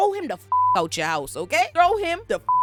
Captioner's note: beep